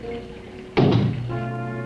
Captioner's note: knocks